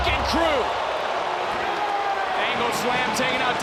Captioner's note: crowd cheers